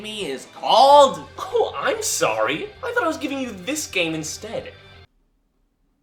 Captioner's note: scoffs